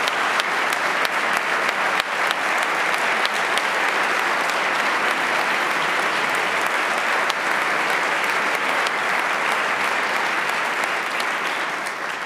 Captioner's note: applause